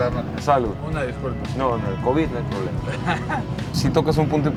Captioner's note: laughter